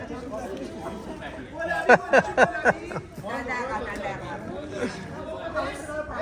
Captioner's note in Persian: خنده